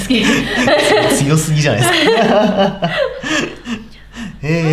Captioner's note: laughs